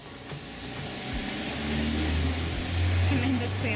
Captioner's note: noisy Cars ¬.¬